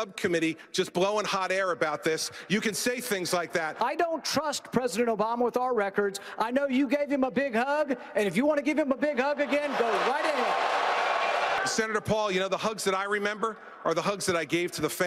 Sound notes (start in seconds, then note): 9.6 applause